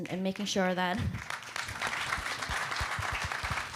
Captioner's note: applause